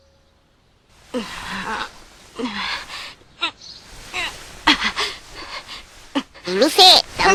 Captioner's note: moaning